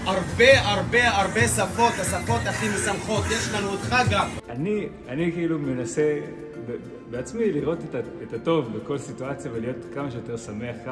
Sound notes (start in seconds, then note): 6.3 speaking Hebrew